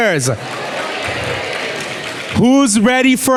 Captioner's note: clapping and cheering